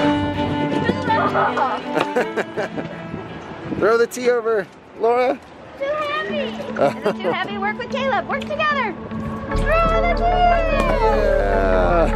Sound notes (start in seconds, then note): 1.0 laughing